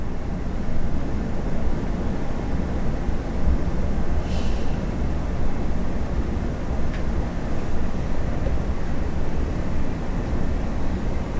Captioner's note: girl sighing softly